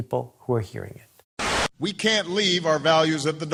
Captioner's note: static